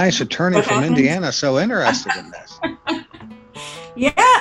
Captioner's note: laughing